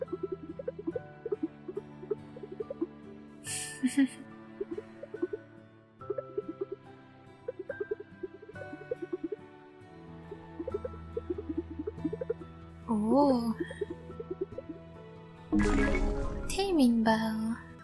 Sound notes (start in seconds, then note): 3.5 giggle